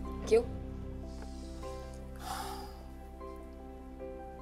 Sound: sighs

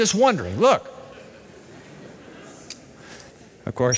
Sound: laughter

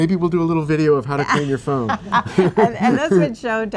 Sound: laughs

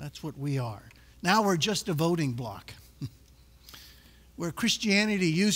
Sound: chuckles

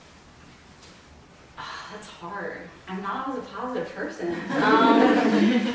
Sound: laughs

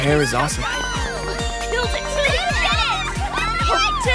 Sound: group cheering

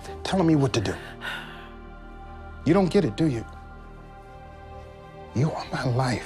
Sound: sighs

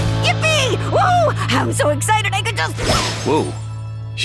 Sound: poof

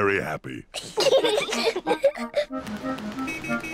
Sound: both giggling

